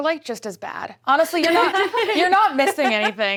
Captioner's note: laughs